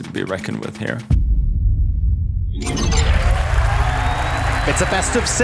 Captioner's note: tense music playing; crowd cheering, applauding